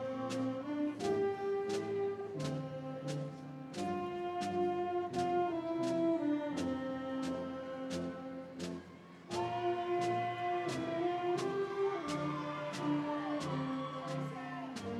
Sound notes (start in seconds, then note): 10.9 audience cheering